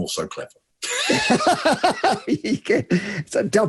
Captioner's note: both laughing